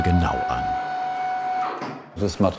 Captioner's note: whir stops